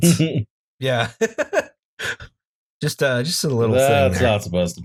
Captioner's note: laughter